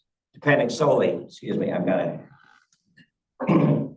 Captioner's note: clears throat